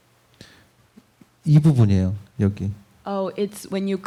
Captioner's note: speaking korean